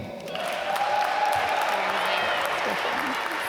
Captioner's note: applause